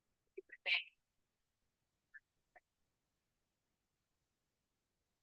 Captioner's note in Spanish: conversación confusa